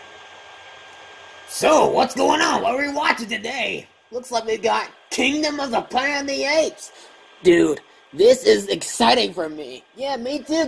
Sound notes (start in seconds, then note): none